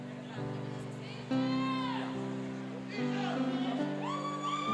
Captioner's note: cheering